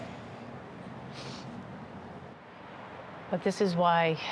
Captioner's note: sniffles